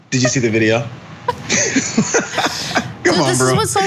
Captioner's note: laugh